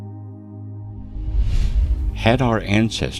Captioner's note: air whooshing